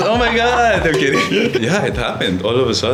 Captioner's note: laughs